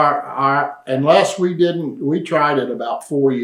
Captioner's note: laughs